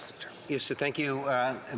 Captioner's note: speaking French